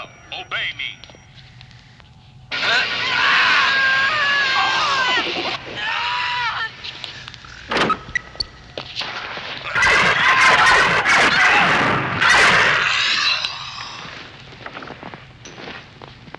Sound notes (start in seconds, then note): 2.3 zapping; 2.5 screaming; 9.6 blasting